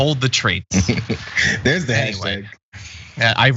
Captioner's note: laugh